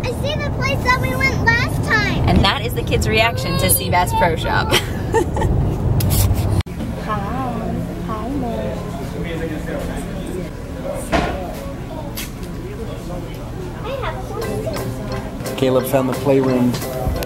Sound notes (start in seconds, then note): 4.8 laughs